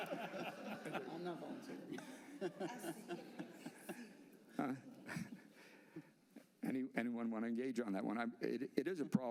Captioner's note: laughter